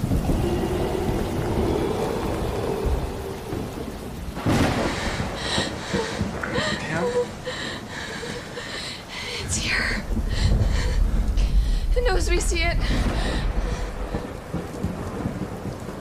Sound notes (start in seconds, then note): 0.2 wind howls; 3.6 thunder booms; 4.8 woman pants